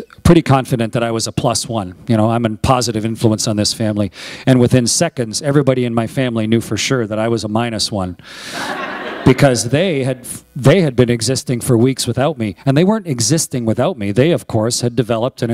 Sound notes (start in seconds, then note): 8.5 laughter